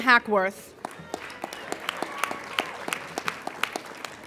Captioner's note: applauding